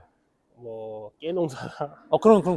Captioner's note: laughs